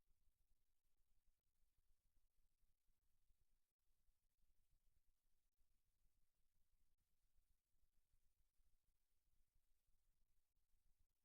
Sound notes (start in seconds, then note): none